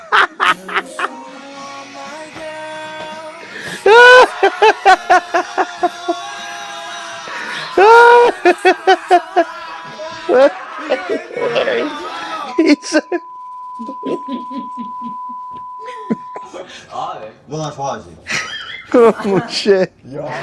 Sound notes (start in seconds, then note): 0.3 romantic music plays; 3.3 scream; 18.2 laughs